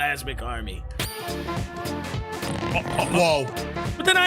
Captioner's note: stammers; upbeat music plays